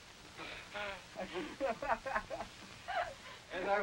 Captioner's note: group laughing